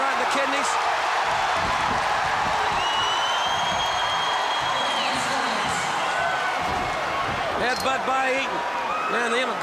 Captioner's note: applause